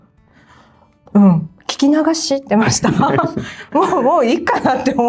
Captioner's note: laughs